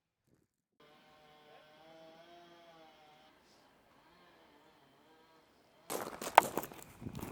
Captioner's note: machinery whirring